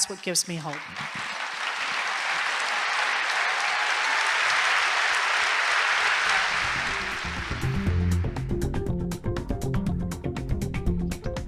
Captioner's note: applause